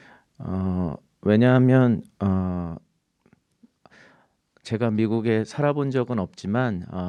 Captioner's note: speaking in Korean